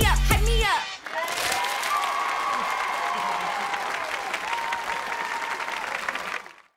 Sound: cheering, applauding

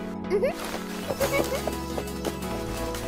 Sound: giggles

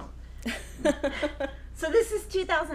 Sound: laughing

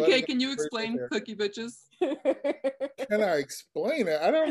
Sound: laughing

